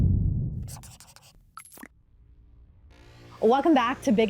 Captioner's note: scribbling, typing